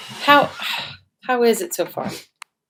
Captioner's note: sighs